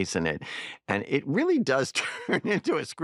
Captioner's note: chuckles